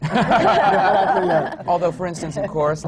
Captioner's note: laughter